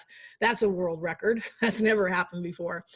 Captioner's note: laughs